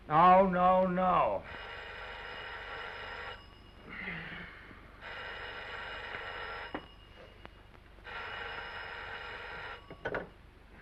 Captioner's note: phone rings